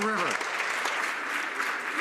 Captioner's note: some Applause